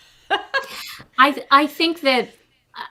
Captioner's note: chuckles